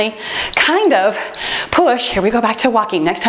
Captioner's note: timer beeps